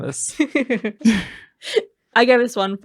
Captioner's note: laughter